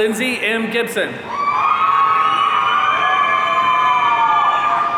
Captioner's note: audience cheering